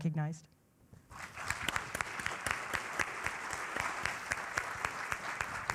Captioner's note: applause